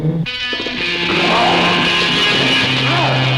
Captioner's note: growling